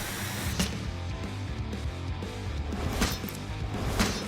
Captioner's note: chopping